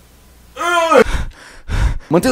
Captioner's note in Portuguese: Yaaaaahhh